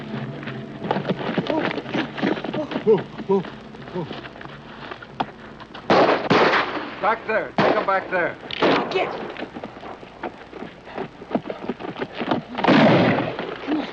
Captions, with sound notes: [gunshots echoing] Back there. Take 'em back there. [gunshot]